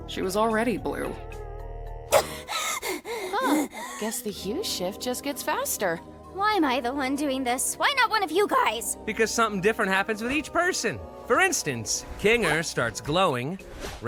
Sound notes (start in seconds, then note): 2.1 gasps; 2.2 panting